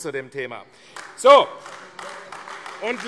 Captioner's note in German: Beifall AfD